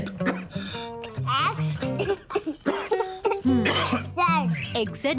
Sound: coughs

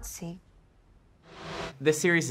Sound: whooshing

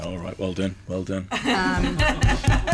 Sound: laughter

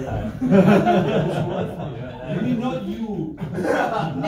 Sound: scholars laugh

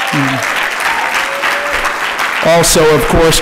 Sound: applause

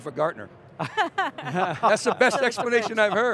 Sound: all laugh

